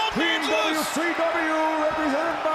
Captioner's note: crowd cheering